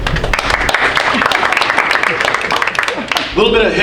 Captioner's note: audience applauding